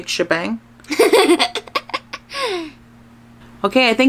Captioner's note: laughs